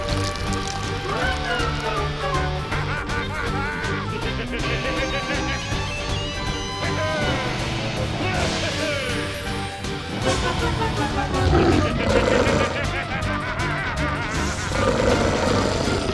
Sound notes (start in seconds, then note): 2.1 evil laughter; 10.9 growls; 12.6 laughing; 14.3 growling